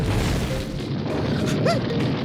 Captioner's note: gasps